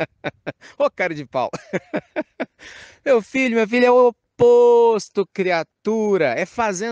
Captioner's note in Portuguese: risadas